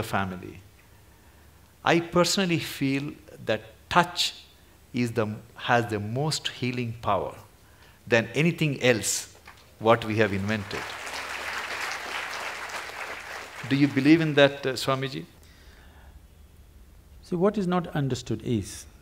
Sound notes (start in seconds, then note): 10.0 applause